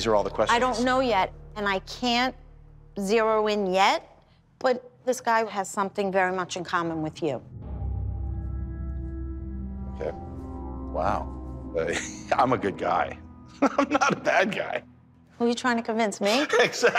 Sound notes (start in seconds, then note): 7.1 suspenseful music playing; 13.5 chuckles